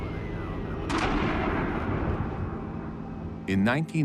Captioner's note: explosions echo